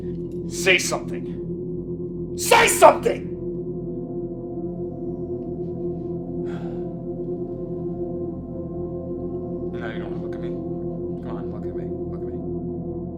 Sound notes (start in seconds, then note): 6.4 sigh